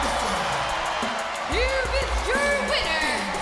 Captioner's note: bell ringing; crowd cheering